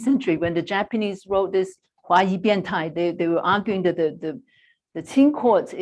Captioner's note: non-english speech